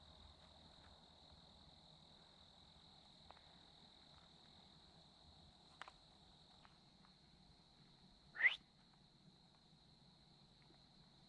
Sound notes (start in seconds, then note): 8.3 whistles